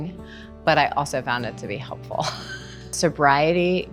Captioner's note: laughs